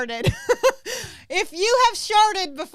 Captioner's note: laughs